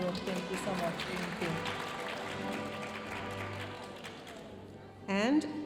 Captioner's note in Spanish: aplausos de la audiencia; hablando en inglés